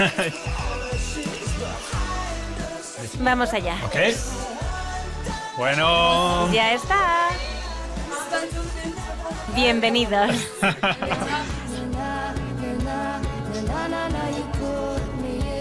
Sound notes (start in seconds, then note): 10.1 laughs